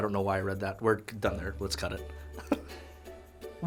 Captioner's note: chuckles